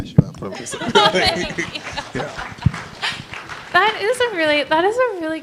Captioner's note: laughter and applause